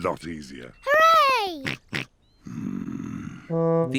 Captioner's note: snorts